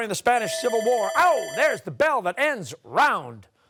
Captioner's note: bell ringing